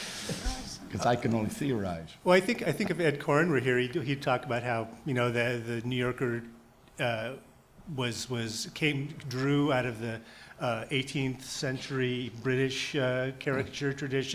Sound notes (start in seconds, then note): none